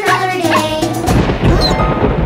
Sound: thundering

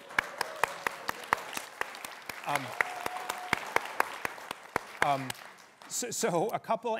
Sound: applause

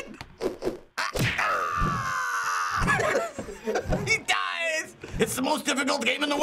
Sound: laughs

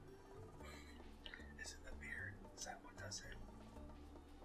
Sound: chuckles

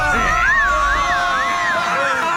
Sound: screaming continues

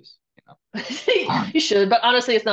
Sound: chuckles

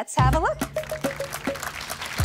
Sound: applause

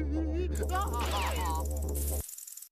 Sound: rattling

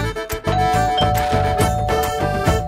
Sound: door bell ringing

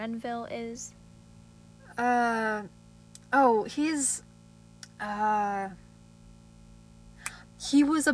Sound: snaps fingers

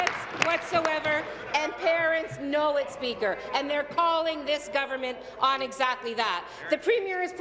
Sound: applause

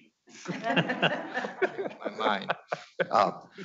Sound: laughs

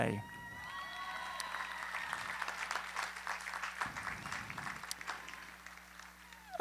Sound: applause

